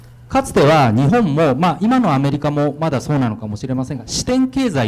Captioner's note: speaking foreign language